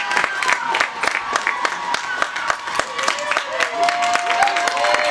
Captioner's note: audience cheering and clapping